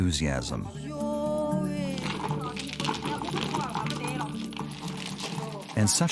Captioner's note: speaking in foreign language